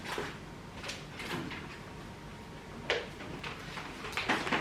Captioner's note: rummaging